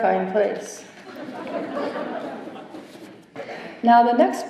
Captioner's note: laughter